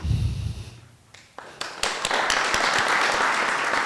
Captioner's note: applause